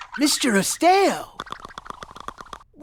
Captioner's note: body chatters